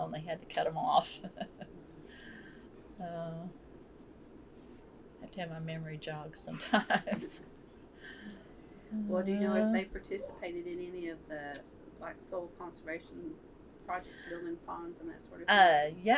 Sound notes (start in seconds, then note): 6.6 laughter